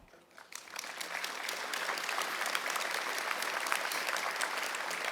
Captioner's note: audience clapping